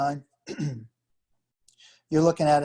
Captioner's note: clears throat